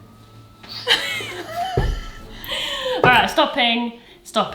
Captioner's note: they wheeze